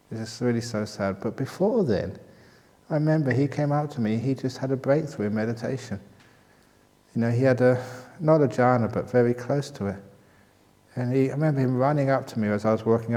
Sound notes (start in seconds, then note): none